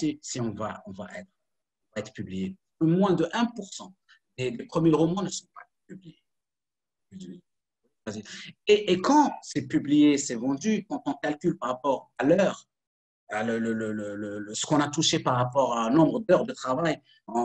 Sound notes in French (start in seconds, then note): 5.4 coupure audio